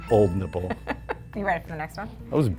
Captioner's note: laughs